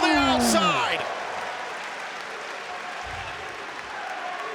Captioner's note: crowd roars